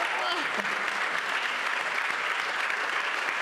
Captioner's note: applause